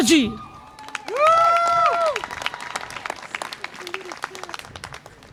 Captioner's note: audience applause and cheer